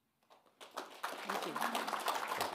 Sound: audience applauding

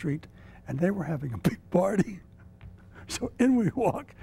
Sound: chuckles

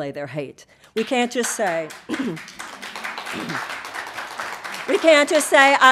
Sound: audience applauding

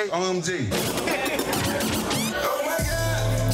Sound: record scratch

